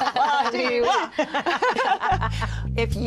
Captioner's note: laughter